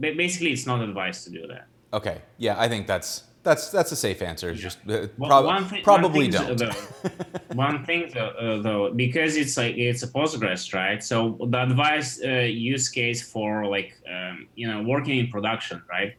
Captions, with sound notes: Basically, it's not advised to do that. - Okay, yeah, I think that's a safe answer. Probably don't. (laughs) - One thing, though, because it's a Postgres stride, so the advice use case for working in production,